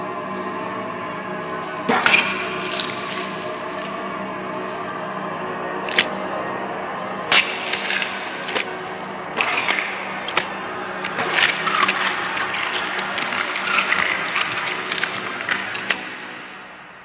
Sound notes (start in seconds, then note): 1.9 squish; 5.9 splat; 7.3 squish; 9.4 splat; 11.0 squish, splat; 11.0 squish; 15.8 splat